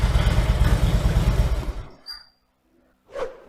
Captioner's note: engine shuts down